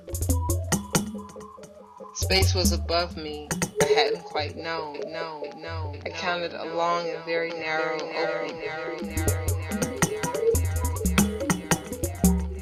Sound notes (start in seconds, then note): 0.0 tapping and drumming beat; 5.6 echoes; 9.0 echoes